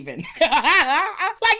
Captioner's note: laughs